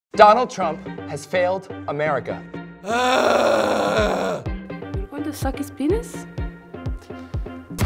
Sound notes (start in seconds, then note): 2.8 groaning